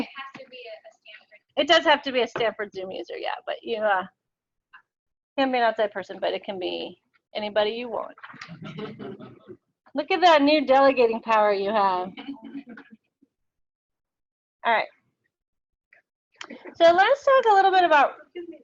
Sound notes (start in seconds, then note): 8.3 audience laughing; 12.2 audience laughing